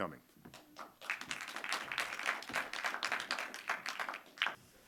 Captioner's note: audience applauding